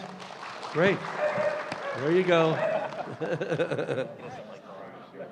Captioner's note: applause; dog barking